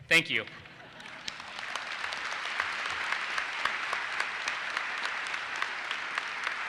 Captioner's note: audience laughs and applauses